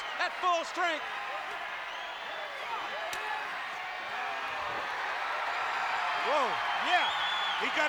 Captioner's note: applause